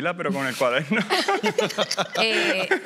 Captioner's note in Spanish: Risas